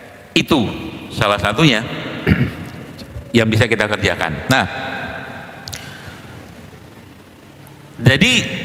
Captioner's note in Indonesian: berdehem